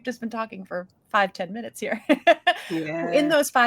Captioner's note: chuckles